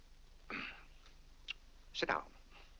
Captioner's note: clears throat